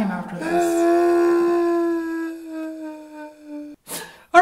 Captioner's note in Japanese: ジャッキーのすすり泣き